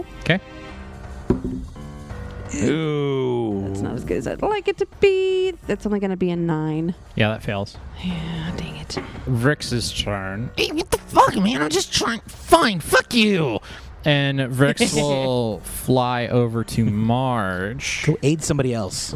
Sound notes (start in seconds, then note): 1.2 sound of die rolling; 2.2 make sounds of dismay